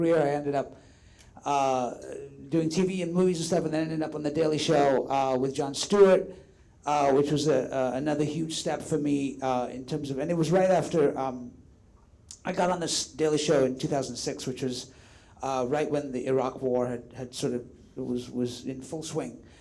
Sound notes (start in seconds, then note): none